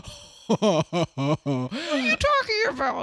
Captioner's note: laughs